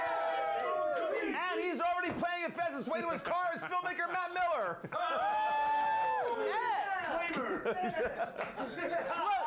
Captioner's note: audience cheering; audience cheering